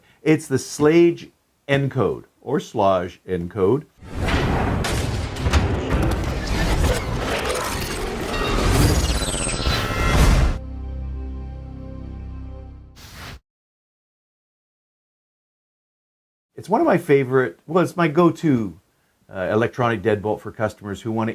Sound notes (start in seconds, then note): 4.2 metal clanging; 9.6 dramatic music